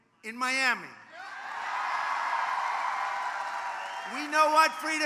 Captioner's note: applause